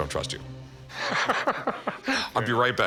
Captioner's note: laughter